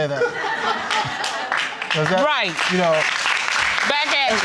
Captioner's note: audience laughing and applauding